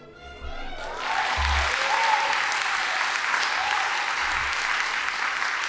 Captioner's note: audience applauding